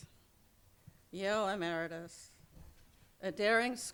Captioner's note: speaking in a foreign language